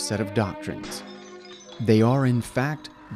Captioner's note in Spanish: tintineo de vidrio